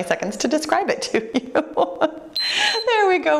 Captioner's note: laughs; timer beeps